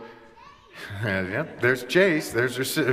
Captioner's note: kids voice in the background